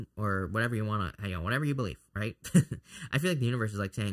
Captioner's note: laughs